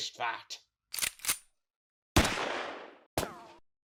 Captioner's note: gun somehow cocks again, then fires